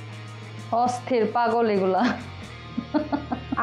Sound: chuckles

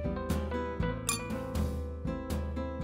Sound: clink!

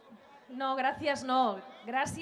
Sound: speaking Spanish

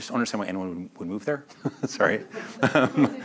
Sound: laughs

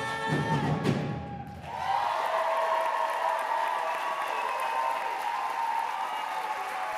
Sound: cheering, whistling and applause

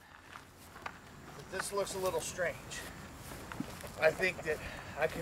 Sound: male Voice

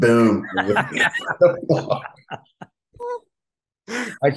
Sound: laughter

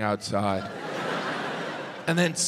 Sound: audience laughs

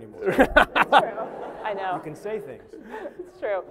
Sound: laughter

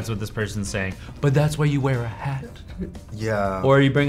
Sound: Anthony chuckles

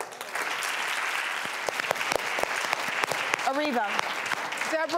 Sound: audience applause

